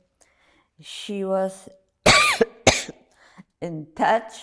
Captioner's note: coughing